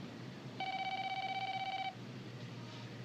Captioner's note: phone ringing